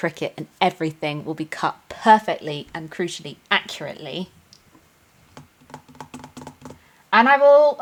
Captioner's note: drums fingers